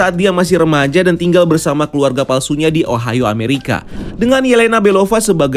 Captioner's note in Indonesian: suara transisi